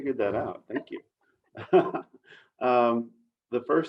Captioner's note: laughing